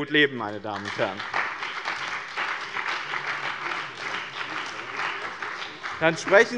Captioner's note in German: Beifall bei dem BÜNDNIS 90/DIE GRÜNEN und der CDU